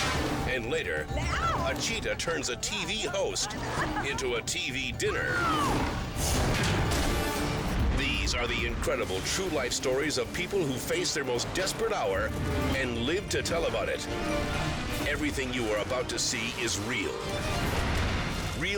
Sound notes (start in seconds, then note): 5.3 TV host screams; 6.4 dramatic music continues; 17.4 explosion booms